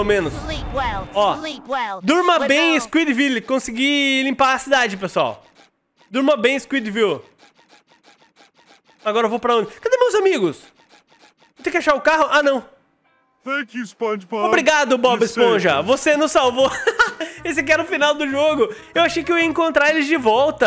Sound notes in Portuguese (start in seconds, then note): 16.5 risos